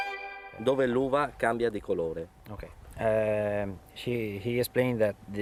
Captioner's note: airy violin music; speaking Italian